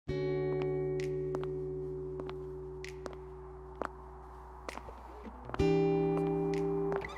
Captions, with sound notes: (gentle music) (footsteps pattering) HI.WELCOME MY CHANNEL